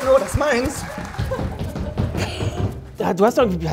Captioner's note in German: Lachen